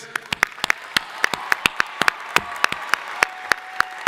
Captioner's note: crowd applauding